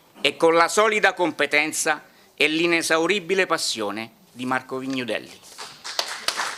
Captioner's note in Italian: Applauso